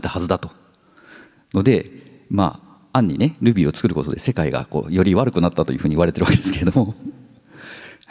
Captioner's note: chuckles